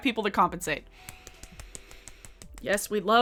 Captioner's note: claps